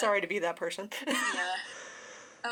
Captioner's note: awkward laugh